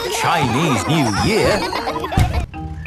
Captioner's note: laughter